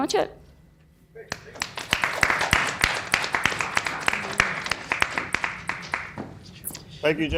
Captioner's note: people clapping